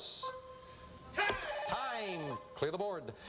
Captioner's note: buzzer